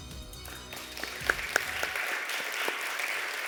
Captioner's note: applause